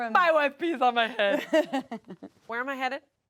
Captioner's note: laughs